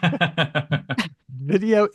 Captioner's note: laughs